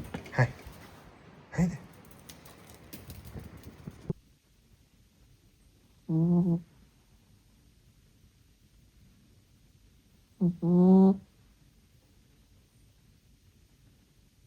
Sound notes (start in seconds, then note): 6.1 tiny snorring; 10.5 snorring continues